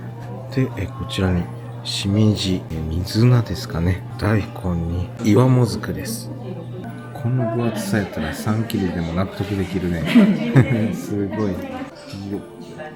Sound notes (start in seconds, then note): 11.3 laughs